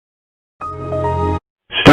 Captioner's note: Windows XP Startup